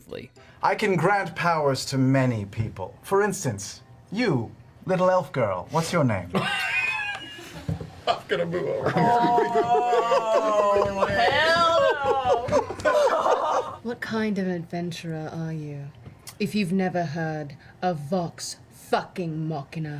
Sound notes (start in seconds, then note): 8.1 laughs; 8.3 quietly